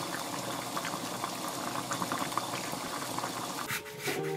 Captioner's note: boiling